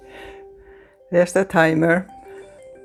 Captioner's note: chime